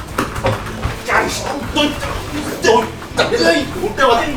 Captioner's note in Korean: 끙끙거리는 소리